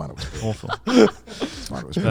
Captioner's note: laughs